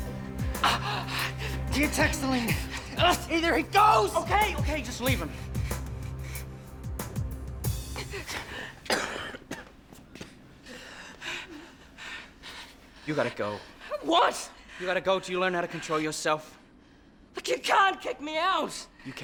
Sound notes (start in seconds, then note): 0.4 gasping; 5.6 panting; 7.8 coughs